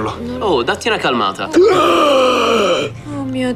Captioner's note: Hann gasps